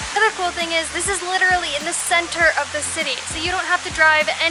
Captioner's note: none